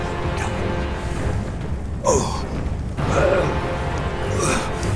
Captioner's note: Man in the Fields groaning; dramatic orchestral music